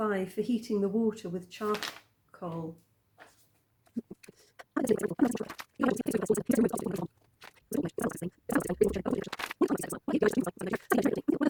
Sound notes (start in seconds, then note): 4.5 talking in triple time